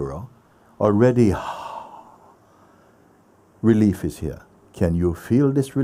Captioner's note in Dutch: relaxte zucht